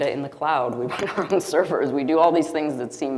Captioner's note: chuckling